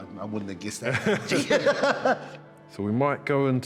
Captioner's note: both laugh